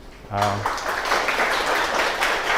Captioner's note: applause